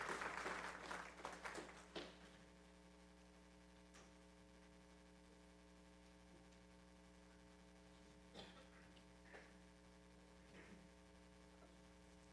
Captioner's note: applause